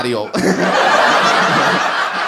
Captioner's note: laughs